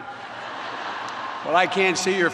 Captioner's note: laughter